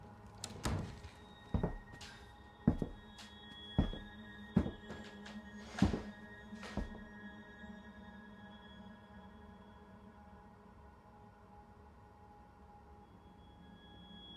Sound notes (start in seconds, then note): 0.4 door closes; 2.6 footsteps